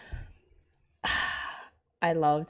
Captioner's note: sighs